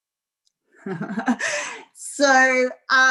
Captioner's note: laughing